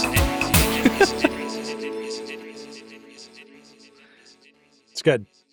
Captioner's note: voice echoing; laughs